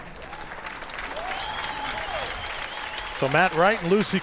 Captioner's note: crowd applauds